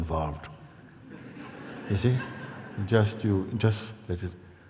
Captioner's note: laughter